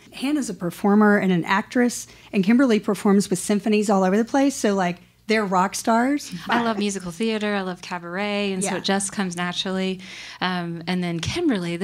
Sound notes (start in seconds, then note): 6.3 laughs